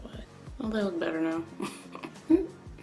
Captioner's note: laughs